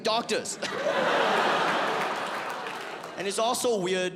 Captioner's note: audience laughs